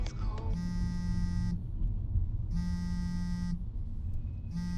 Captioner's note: phone vibrating